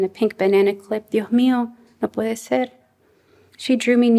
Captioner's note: non-english speech